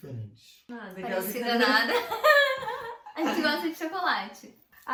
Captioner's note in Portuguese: risos